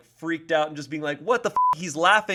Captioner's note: beep